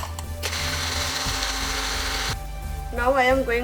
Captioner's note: blender blending